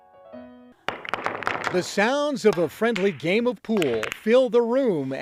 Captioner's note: balls clacking